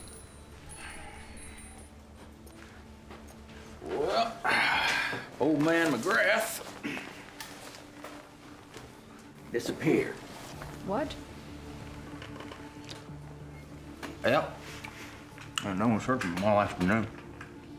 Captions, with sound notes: Well... [SIGHS] Old man McGrath... disappeared. What? Yep... and no one's heard from him all afternoon.